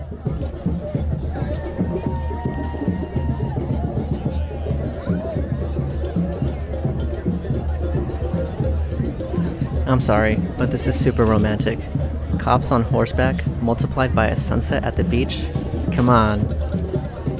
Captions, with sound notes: (cheering) I'm sorry, but this is super romantic. The cops on horseback, multiplied by a sunset at the beach. C'mon.